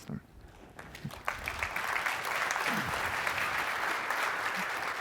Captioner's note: applause